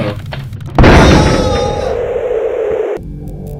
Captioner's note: floor breaks, then howling wind